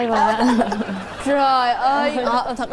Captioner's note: laughters